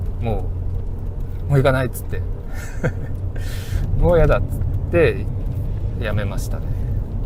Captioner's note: laughs